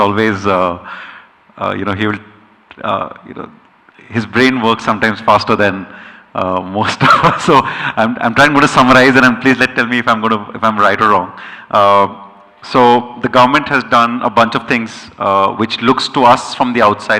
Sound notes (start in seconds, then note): 6.8 chuckles